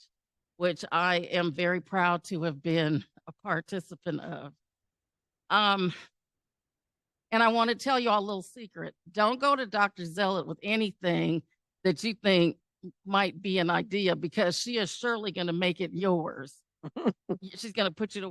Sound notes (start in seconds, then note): 16.8 giggle